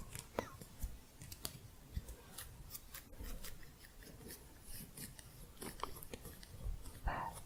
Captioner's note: scissors sounds